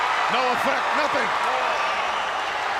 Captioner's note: crowd chattering